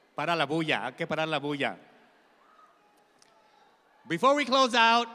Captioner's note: speaking in Spanish